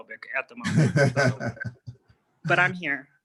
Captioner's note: laughter